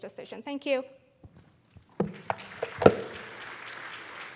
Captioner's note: applause